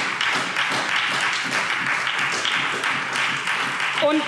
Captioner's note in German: Beifall SPD